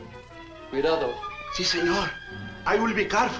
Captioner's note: Thorne speaks Spanish